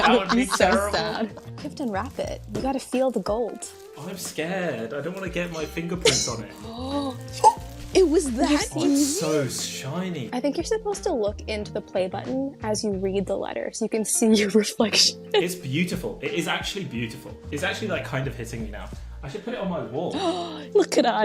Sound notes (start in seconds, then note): 0.0 laughing; 6.5 gasps